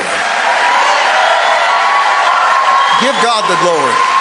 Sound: congregation cheering

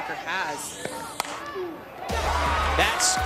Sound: ball connecting with bat

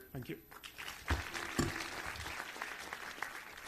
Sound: clapping

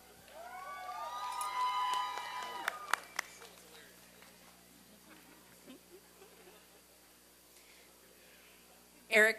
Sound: applause and cheering

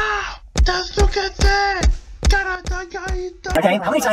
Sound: yelling in japanese

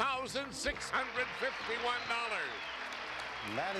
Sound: audience applauding

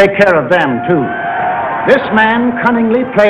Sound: crowd cheering

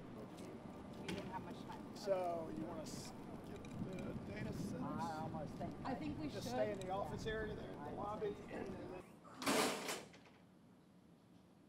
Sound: chatter

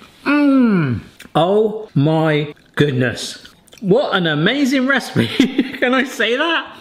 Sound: laughing

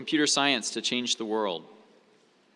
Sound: none

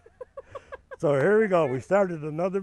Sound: laughing

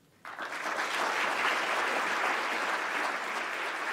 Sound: clapping

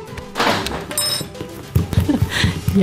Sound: grab study materials, rapid footsteps

